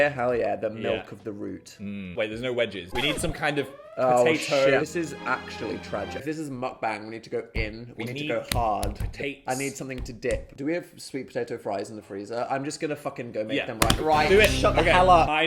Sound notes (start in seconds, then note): 2.8 alarm blaring; 8.4 hand thumping